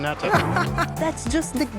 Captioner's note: laughs